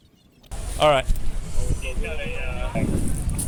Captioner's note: radio chatter